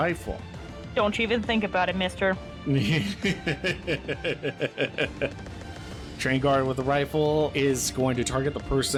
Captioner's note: laughter